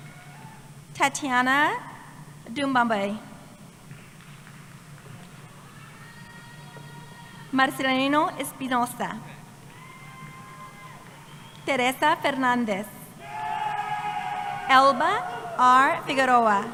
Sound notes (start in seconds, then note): 3.2 cheering